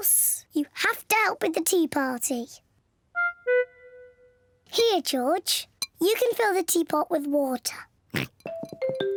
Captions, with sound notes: you have to help with the tea party. -Here, George. You can fill the teapot with water. -(OINKS)